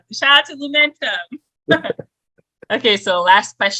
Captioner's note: chuckles